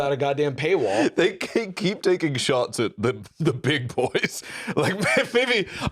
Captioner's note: laughs